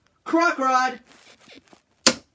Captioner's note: bed squeaks